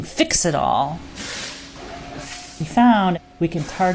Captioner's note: machines toil away in an autobody repair shop